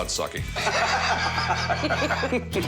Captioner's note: laughter